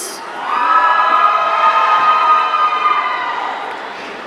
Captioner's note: audience cheering